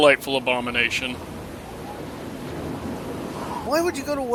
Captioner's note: icy wind blowing